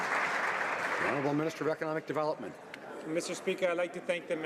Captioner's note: some Applause